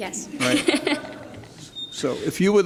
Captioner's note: laughs